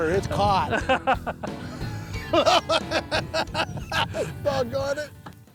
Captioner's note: laughter